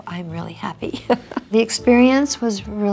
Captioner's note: Priscilla laughs